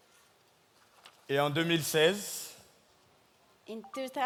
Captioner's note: speaking in French